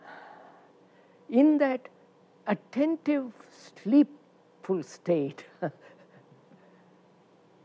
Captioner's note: laughs